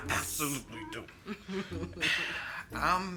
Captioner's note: Colleen chuckles